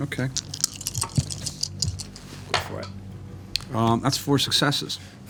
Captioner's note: dice rattling